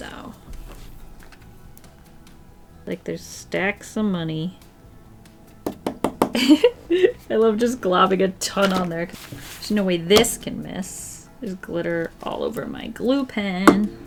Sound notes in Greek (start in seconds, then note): 5.6 Χτύπημα; 6.3 Γέλια